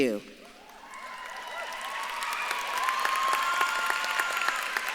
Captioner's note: audience claps and cheers